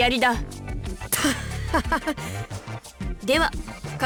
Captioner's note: sheepish laugh